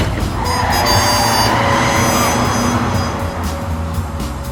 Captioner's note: tires screeching